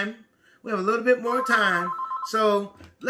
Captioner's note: phone beeping